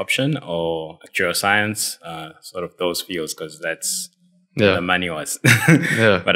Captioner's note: laugh